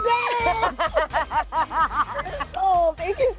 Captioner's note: both laughing